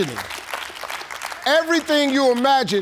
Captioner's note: audience clapping